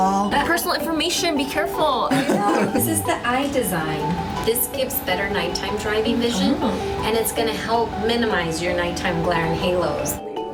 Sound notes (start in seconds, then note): 2.1 laughs